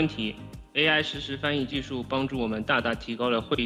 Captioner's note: non-English